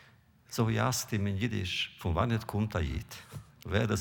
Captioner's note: Yiddish